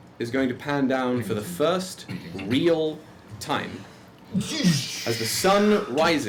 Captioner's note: wind whistling